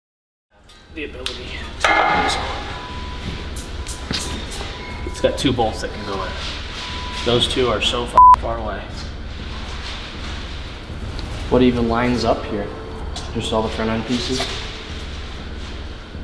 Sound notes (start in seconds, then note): 8.1 beep